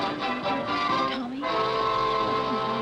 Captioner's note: whispering